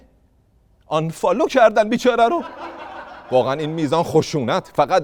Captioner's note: laughter